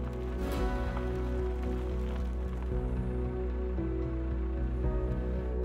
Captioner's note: piano; gravel Crunching